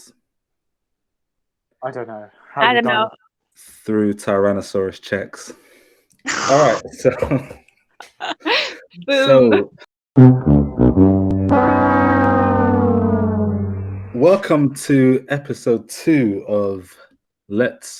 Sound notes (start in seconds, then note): 6.3 laughter; 10.2 sad trombone noise